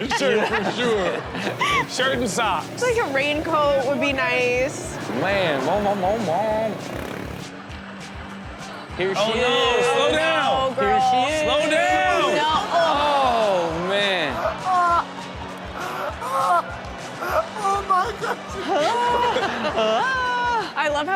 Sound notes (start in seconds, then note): 0.2 audience laughs; 12.7 audience groans; 14.9 audience laughs; 17.2 background laughter; 17.2 audience laughs